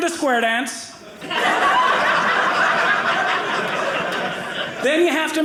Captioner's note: audience laughing